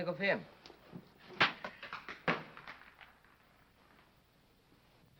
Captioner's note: rock clanking